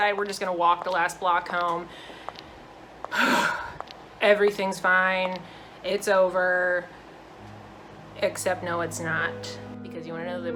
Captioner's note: sigh